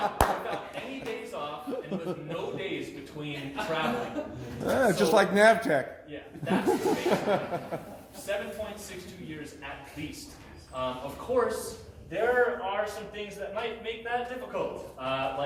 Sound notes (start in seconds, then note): 6.3 laughter